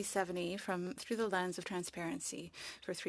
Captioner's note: speaking French